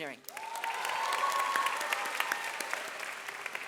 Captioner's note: audience applauds